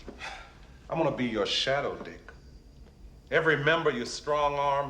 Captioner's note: sighing